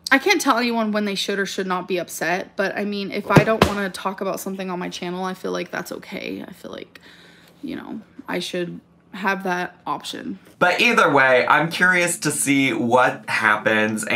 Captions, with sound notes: I can't tell anyone when they should or should not be upset, but, I mean, if I don't (accessory clattering) wanna talk about something on my channel, I feel like that's okay. I feel like, you know, I should have that option. - But either way, I'm curious to see what happens,